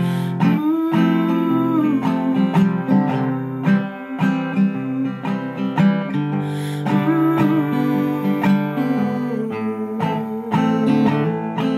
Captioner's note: humming